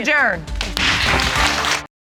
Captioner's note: bangs gavel